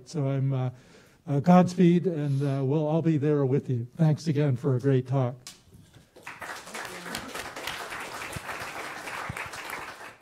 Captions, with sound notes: So godspeed. And we'll all be there with you. Thanks again for a great talk. [APPLAUSE]